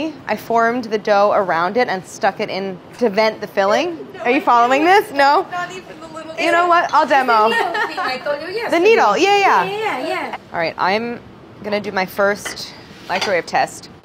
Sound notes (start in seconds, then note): 3.9 laughing